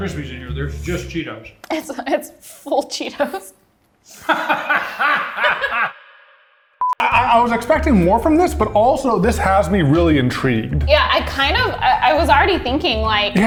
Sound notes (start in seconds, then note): 4.2 laughing